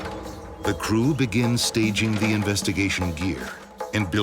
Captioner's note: voiceover